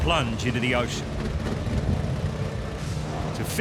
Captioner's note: engine rattling